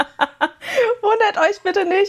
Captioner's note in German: gelächter; japst